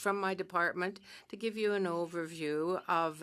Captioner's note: speaking French